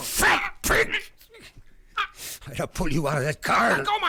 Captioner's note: gasping